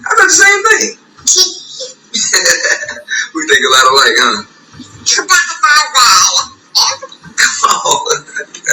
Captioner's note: laughter